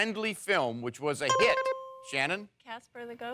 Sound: bell rings

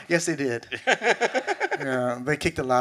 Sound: laughs

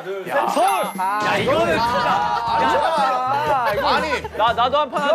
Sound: everyone complaining

